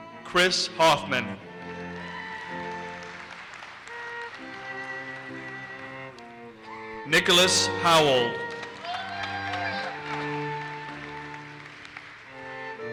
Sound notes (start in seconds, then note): 1.6 audience cheers and applauses; 8.8 audience cheers and applauses